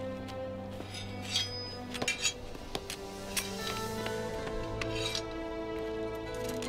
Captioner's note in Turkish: Kılıç sesleri; El vurma sesleri